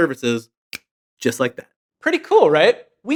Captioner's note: snaps